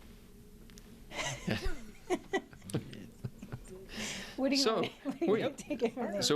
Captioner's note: laughing